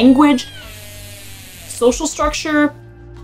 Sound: background music; orca vocalization; background music

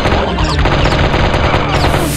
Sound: fires his B-B gun

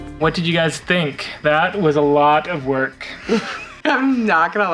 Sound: chuckles

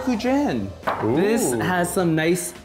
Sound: gasps

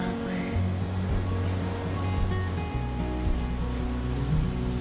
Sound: waves crashing on beach

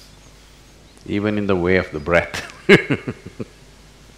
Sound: laughs

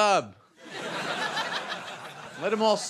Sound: audience laughing

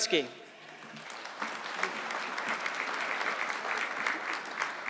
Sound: audience clapping

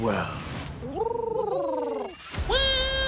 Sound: Doomlings purring; Doomling screaming

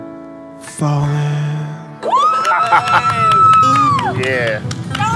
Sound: applauds

